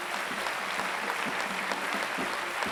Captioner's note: Applauso